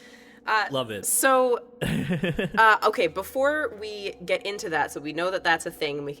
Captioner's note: chuckles